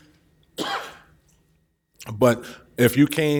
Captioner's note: coughs